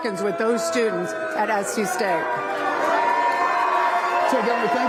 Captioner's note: cheers and boos